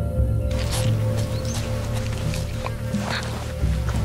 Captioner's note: Flies Buzzing